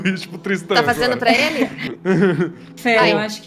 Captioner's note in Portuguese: riem